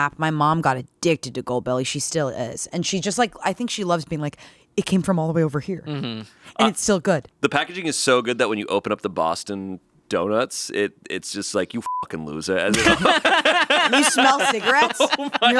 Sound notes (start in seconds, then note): 12.0 beeping; 12.7 laughing